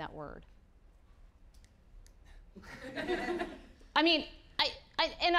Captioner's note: audience laughing